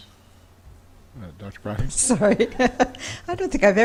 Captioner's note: laughing